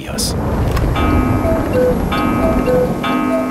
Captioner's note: thunder from outside, cuckoo clock strikes